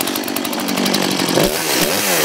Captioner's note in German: Lautes Knattern